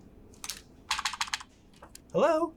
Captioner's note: clacking